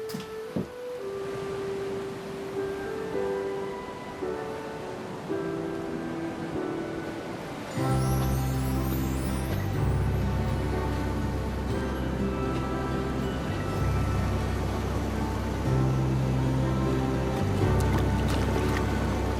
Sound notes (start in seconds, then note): 1.3 ocean waves rolling in